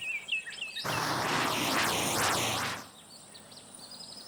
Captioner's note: engine rumbling